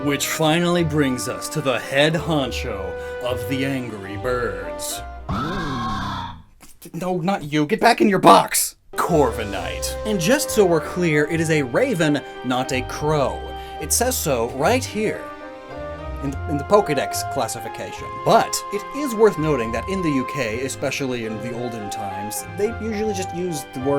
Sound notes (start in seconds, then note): 7.0 Honchkrow caw